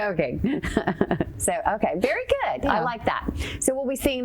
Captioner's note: chuckles